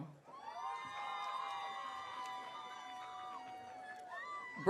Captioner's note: audience cheering